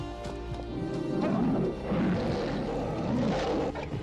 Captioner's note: bear roaring